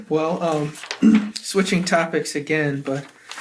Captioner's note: laughs